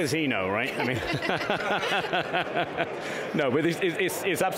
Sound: laughing

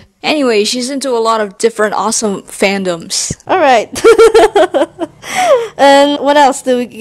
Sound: laughs

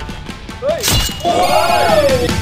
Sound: hit

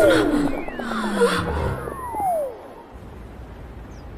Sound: system alert

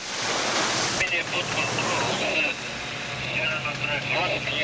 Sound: chatter over radio

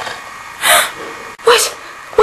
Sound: both gasp

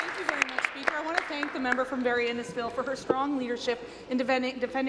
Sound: applause

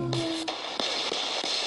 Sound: ghost box hissing; voice moaning

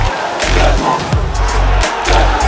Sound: clap

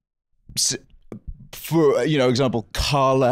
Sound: stammering

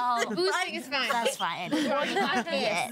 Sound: girls laughing

